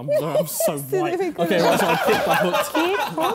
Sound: laughing

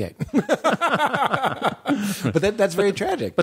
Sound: laughter

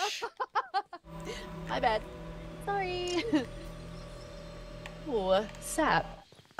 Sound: laugh

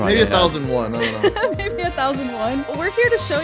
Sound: laughing amusingly

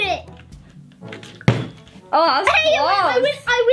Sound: bottle landing

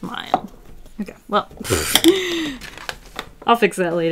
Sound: laughs

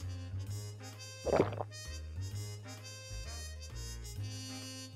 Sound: gulping

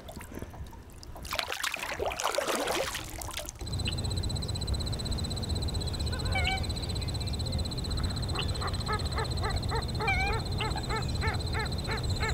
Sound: splashing, birds

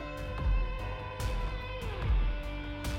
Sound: echoing

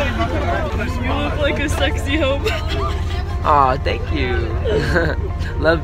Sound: hehehehehhehe

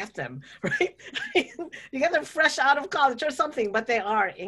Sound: laughs

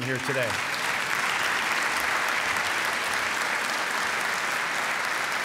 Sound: applause

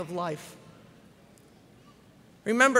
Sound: none

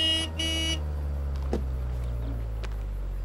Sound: bip bip!

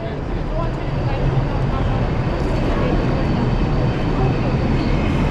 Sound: train approaching

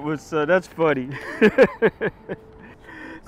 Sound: laughs

